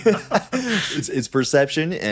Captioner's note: both laughing